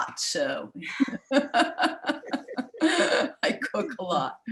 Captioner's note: women laughing